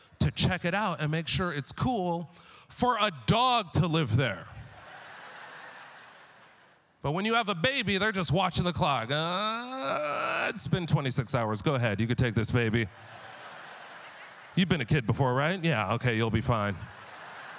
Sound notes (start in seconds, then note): 4.6 laughter; 12.8 laughter